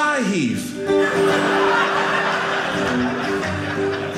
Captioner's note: audience laughing; guitar playing